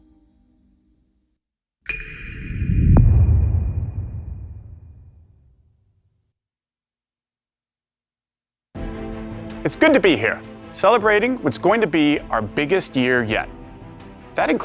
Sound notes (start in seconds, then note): 4.6 dramatic sound